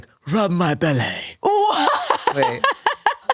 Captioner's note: laughs